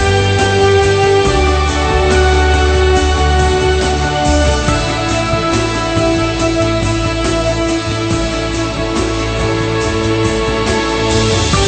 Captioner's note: some applause